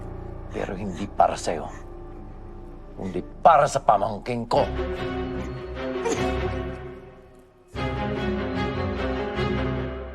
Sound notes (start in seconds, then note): 6.0 sobs; 7.6 dark music continues